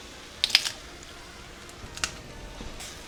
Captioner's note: crack